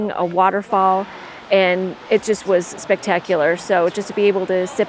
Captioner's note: water crashing